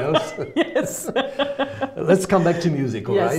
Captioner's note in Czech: smích